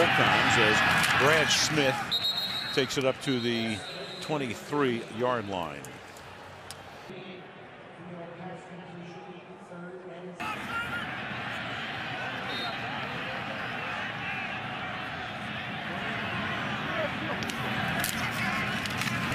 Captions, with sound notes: and lost both times as Brad Smith takes it up to the 23-yard line. [pa announcement] [whistles]